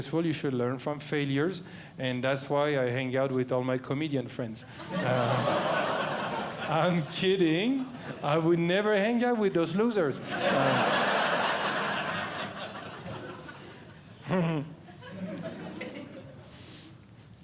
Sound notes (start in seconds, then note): 4.8 audience Laughing; 10.1 audience Laughing; 14.2 laughs